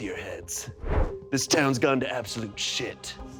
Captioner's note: tense music; air whooshing